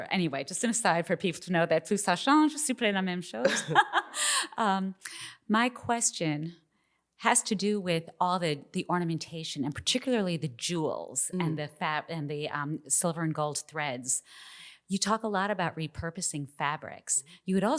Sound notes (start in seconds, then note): 1.9 speaking in French; 3.4 laughs